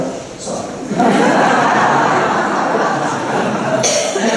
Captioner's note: laughter